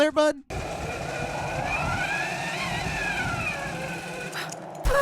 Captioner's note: zip line whizzing